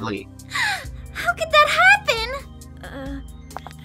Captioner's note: gasp